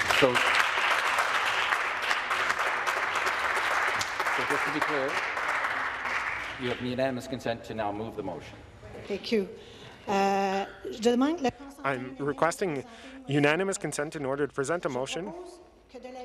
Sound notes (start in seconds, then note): 4.9 some Applause